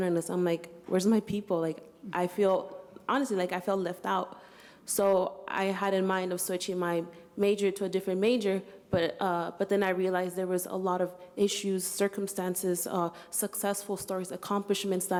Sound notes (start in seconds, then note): none